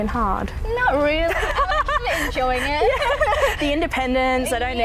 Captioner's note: laughs